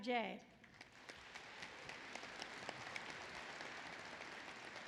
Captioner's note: applause